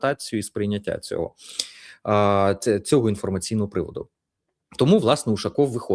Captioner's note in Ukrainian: сопіння